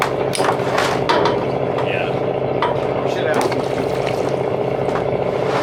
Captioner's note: metal clanking